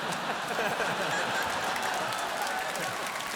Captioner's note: Conan and audience laughing